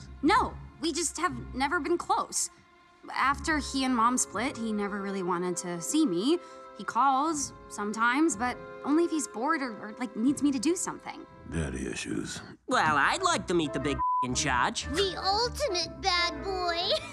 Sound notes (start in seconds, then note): 14.0 beep